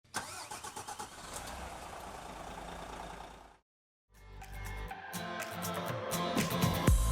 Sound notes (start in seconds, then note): 0.0 car engine starting; 4.2 elated music